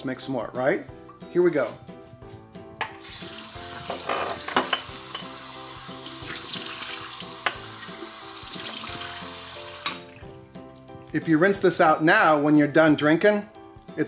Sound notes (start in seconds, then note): 3.2 serene music; 3.2 water rushing